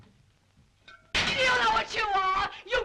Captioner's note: porcelain smashes